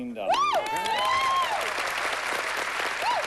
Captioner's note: cheering